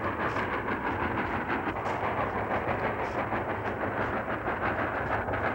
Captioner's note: train engine chugging